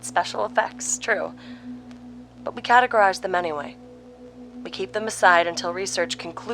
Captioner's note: the looping sounds are now so frequent they occur in unison